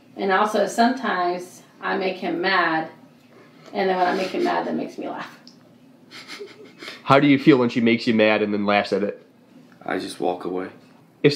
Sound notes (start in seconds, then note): 6.0 laughing